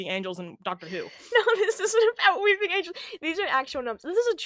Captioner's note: laughing